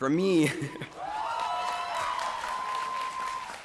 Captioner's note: cheering